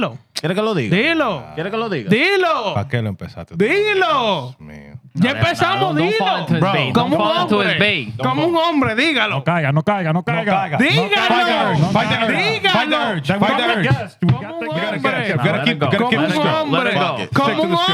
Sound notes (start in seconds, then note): 9.2 speaking In Foreign Language